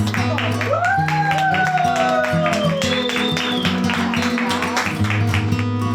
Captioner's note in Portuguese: Aplausos